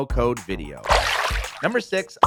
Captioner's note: water splashing